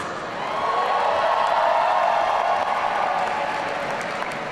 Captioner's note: audience cheering